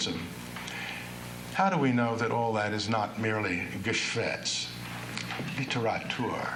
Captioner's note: non-english speech